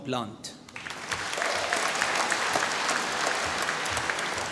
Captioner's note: applause